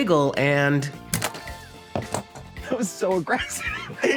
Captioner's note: cracking; laughing